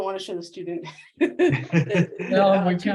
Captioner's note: chuckles